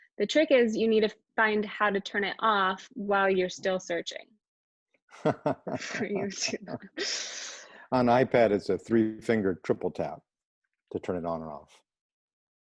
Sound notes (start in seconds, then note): 5.2 laughter